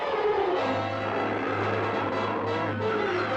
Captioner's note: both growling